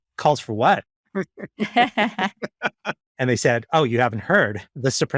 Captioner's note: laughing